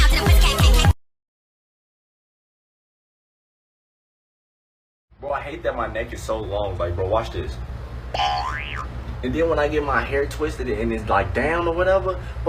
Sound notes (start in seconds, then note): 8.1 boioing